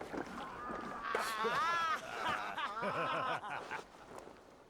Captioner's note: laughing